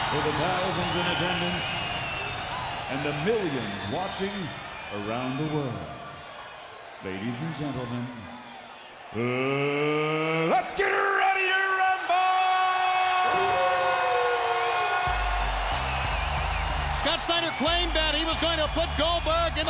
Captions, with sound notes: For the thousands in attendance and the millions watching around the world, ladies and gentlemen, let's get ready to rumble! (crowd cheering) (steady music) Scott Steiner claimed that he was going to put Goldberg